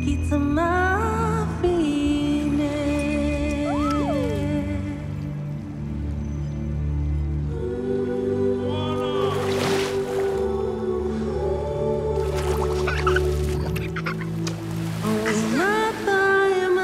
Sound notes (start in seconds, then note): 12.5 laughing